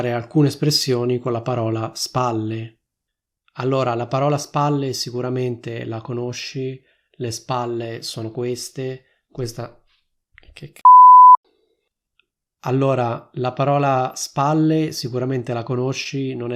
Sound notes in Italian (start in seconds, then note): 10.8 beep